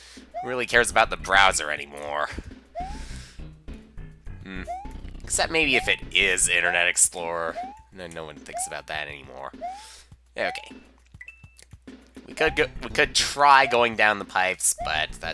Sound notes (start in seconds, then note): 2.8 inhaling